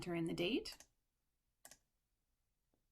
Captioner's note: click